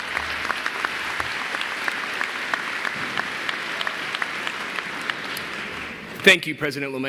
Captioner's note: applause